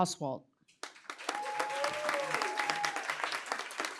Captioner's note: cheering, applause